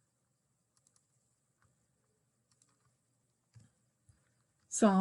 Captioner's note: mouse clickings